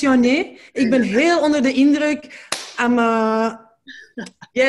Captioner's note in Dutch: handklap, maakt buiging